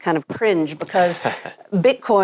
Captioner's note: laughs